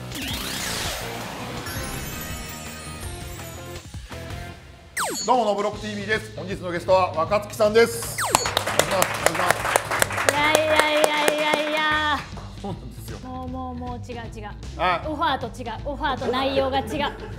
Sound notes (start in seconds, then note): 8.3 applause